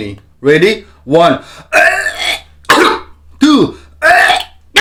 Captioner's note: coughing